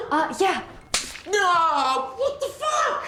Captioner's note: Kira slaps arm